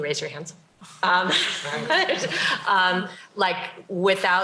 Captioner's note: laughter